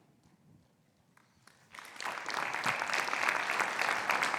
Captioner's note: audience clapping